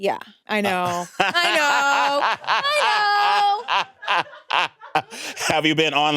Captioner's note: laughs